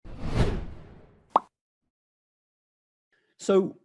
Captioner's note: air whooshing